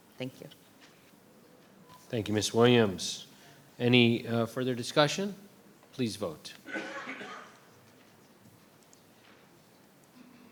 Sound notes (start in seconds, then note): 6.6 person coughing